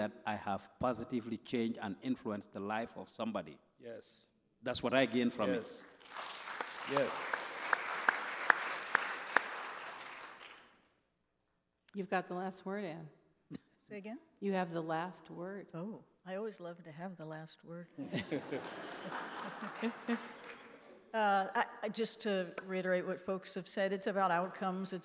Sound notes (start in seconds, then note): 5.5 applause; 18.0 laughing